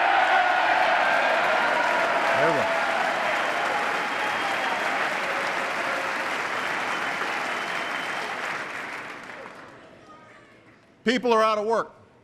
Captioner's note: applause